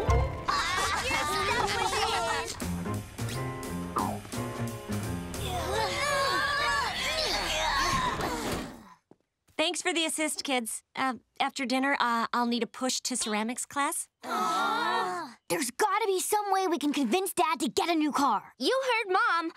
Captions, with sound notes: [laughing] [grunting] Thanks for the assist, kids. Uh, after dinner, I'll need a push to ceramics class. [groaning] There's gotta be some way we can convince Dad to get a new car. You heard Mom.